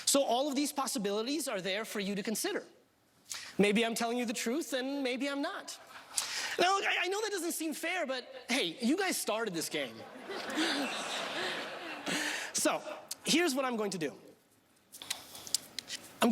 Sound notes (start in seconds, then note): 10.0 laughing